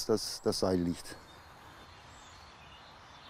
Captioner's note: birds chirping